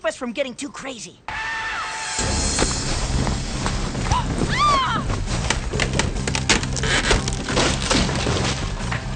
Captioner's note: scream